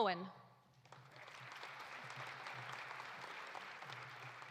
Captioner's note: audience applauding